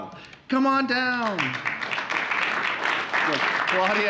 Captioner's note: applause